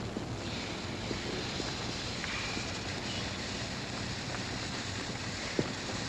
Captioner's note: sizzling sound